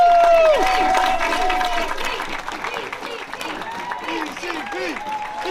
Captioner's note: chanting